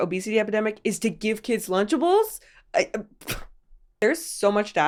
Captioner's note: scoffs